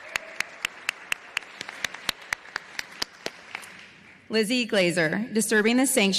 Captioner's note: applause